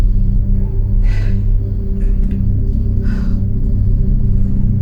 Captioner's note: Monica breathing heavily